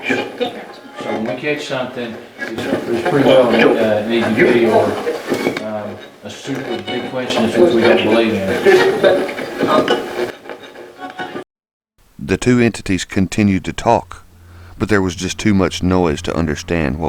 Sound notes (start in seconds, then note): 2.8 radio voices; 7.8 radio voices